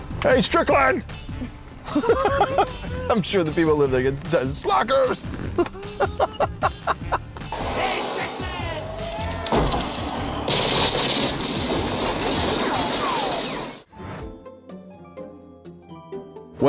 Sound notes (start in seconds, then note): 1.8 laughs; 5.5 laughs; 7.5 men yelling; 7.5 guns firing; 14.2 bright music